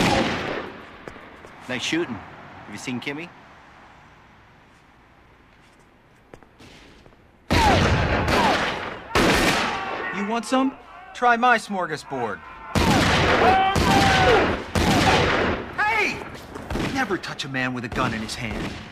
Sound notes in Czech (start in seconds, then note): 12.7 Výstřely; 13.3 Křik